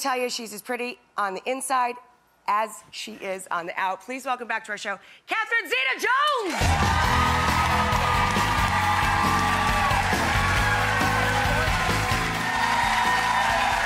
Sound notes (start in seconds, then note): 6.7 cheers and applause; 8.2 lively music